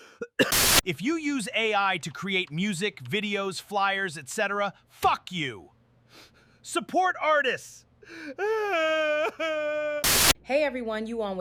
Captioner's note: crying